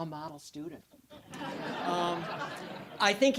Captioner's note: audience laughing